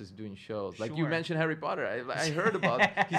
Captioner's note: stutters